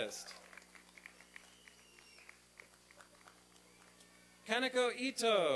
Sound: applause and cheering

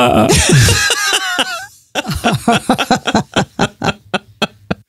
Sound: laughing

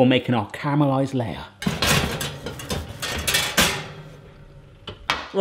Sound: pan clattering

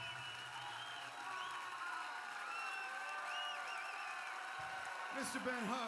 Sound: cheers and applause

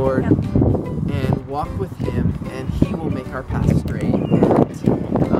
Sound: wind noise, to loud to hear

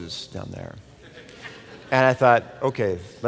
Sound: laughter

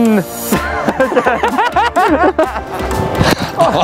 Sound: laughing

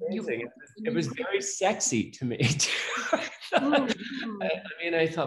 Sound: laughs

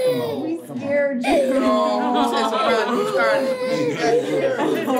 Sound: baby crying; indistinct chatter

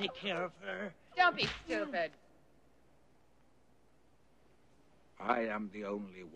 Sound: hitting

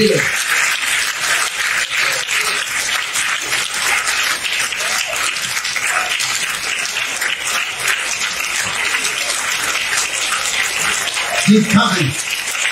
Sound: congregation clapping and cheering

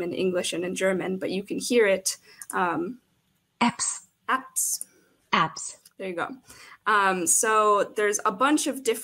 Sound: German accent; American accent

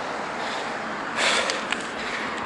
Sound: heavy breathing

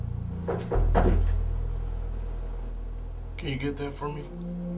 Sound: knocking on the door

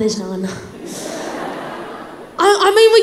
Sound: crowd laughs

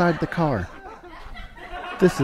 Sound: laughter

